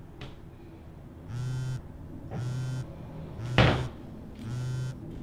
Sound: phone vibrates

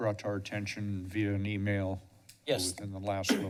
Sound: clears throat

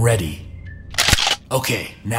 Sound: gun

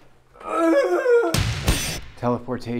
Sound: just an awful sounding wailing noise

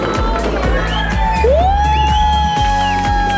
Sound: cheering

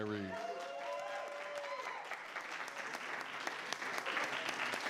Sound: everyone applauding

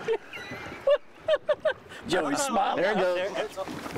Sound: laughing

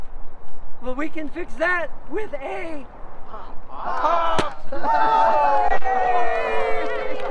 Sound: audience cheers

